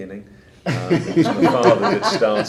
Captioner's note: laughing